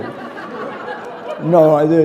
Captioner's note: laughter